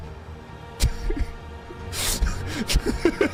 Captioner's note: laughs